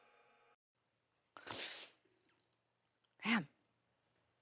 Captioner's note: Kristen inhales